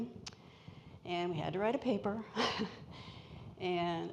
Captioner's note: laughs